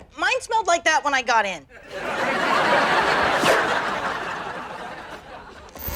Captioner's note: audience laughter